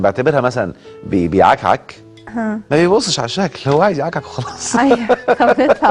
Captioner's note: laughs!